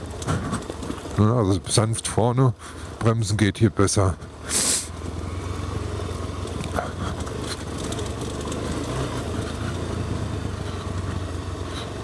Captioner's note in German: schnauben